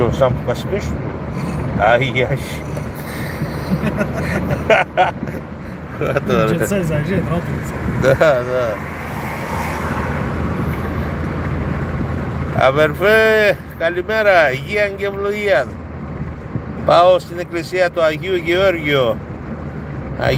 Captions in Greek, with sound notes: σαν πίσω. [γέλια] Ναι. Ναι. Αδερφέ, καλημέρα. Υγείαν και ευλογίαν. Πάω στην εκκλησία του Αγίου Γεώργιο.